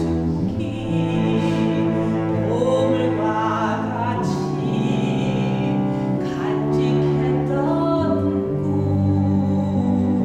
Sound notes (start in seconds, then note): none